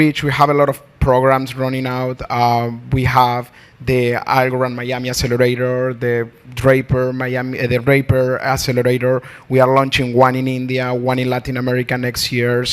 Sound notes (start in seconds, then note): none